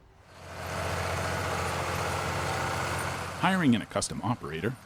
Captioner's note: tractor engine roaring